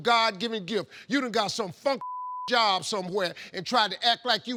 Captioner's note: beep